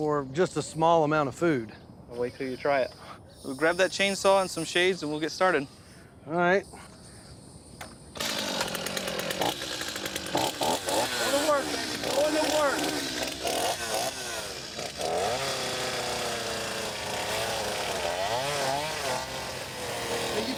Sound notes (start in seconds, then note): 9.9 revving; 13.4 chainsaw grinding